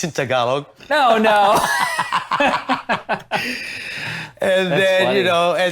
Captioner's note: everyone laughs